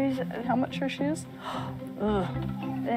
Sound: gasps

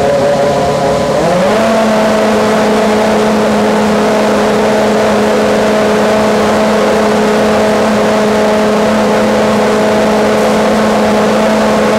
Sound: F1 engine revving

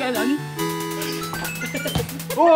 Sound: laughing

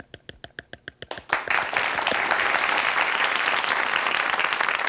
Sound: audience applauding

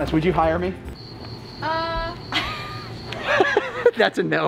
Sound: cricket noises

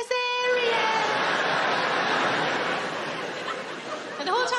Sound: audience laughing

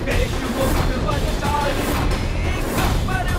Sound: ululating

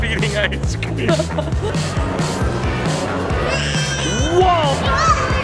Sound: laughing

